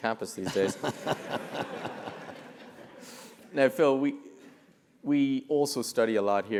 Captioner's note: laugh